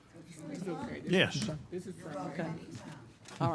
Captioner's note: board murmuring